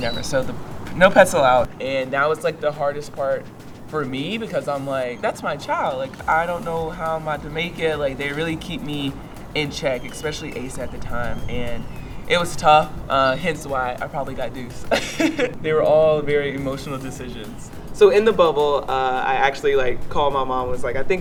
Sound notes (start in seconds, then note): 14.6 chuckles